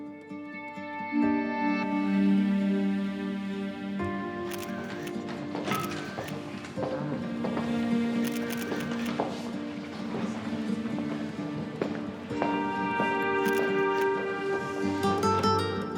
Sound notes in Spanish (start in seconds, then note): 8.1 clic de cámaras